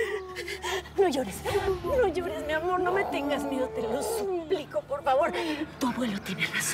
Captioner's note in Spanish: Sollozos